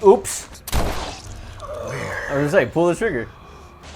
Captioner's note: gun firing